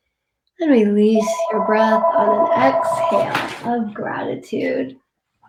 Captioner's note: phone rings